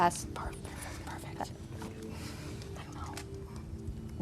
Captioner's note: whispering